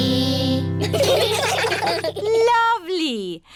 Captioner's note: children giggling